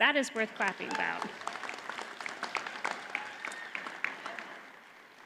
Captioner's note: audience applauds